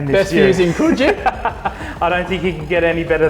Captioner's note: laughs